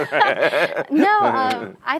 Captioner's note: both laugh